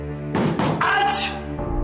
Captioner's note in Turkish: kapi yumruklama sesi̇